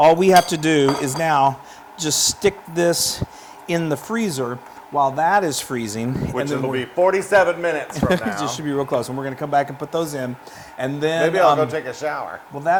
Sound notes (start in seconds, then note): 7.9 laugh